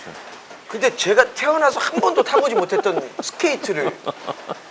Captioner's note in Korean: 웃음